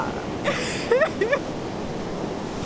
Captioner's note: laughter